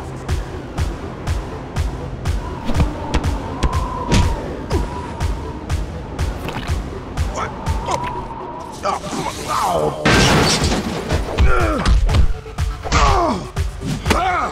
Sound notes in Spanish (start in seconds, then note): 8.8 Coach se queja